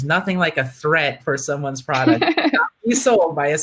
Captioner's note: laughing